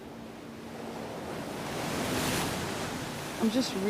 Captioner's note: waves lapping